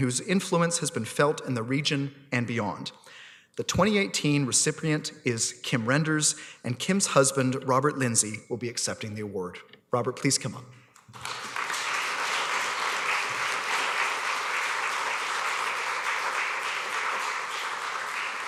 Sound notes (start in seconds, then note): 11.0 applause